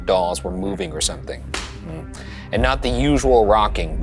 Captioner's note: hand smacks